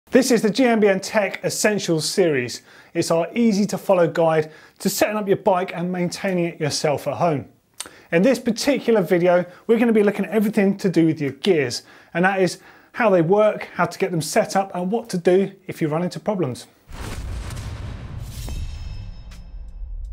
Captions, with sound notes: - This is the GMBN Tech Essential Series. It's our easy-to-follow guide to setting up your bike and maintaining it yourself for home. In this particular video, we're gonna be looking at everything to do with your gears, and that is how they work, how to get them set up, and what to do if you run into problems. (booming)